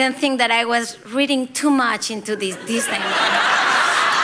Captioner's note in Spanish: risas